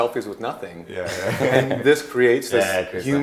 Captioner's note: laughing